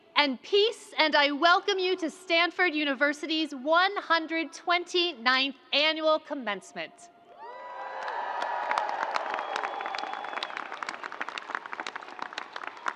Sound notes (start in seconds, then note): 7.4 crowd applauds